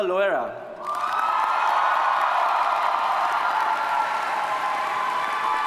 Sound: audience cheers and applauds

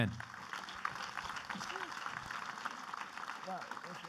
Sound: clapping

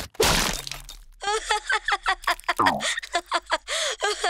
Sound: laughing

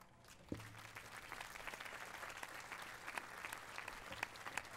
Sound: applause

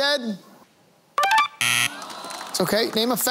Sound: buzzer sounding

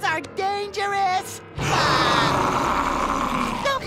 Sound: roaring

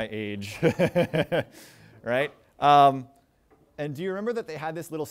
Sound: chuckles

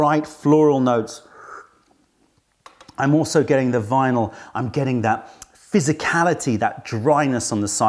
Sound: sips tea

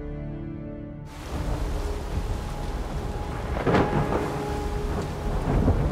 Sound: thunder storm

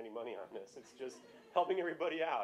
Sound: laughter

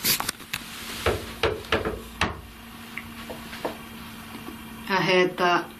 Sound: knocks on wall

